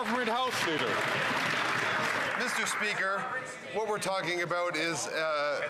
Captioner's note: some Applause